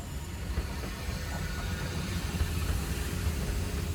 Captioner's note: train engine whirring